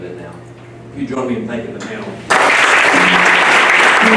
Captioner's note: applause